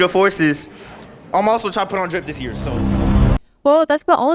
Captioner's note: AIr Force One’s Aura make a whooshing sound